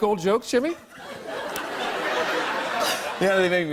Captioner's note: laughter